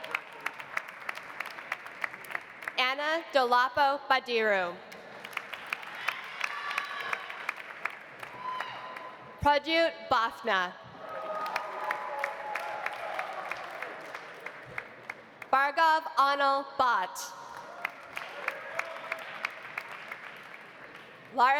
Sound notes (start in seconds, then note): 0.0 audience applauding; 5.0 audience applauding; 5.9 audience cheering; 11.0 audience cheering; 11.0 audience applauding; 17.5 audience applauding; 18.1 audience cheering